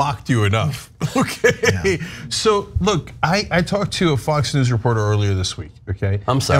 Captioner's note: laugh